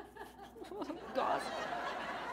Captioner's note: chuckle